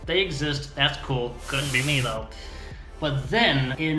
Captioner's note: static and audio distortion